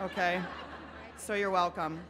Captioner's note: laughing